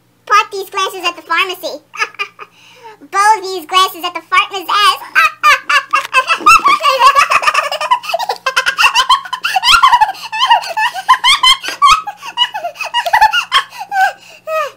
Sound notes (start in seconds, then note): 1.9 laughs; 8.5 laughing intensely, both laugh